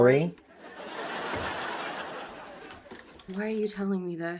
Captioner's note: canned laughter